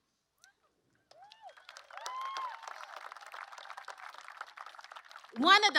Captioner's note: applause